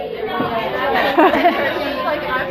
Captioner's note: laughs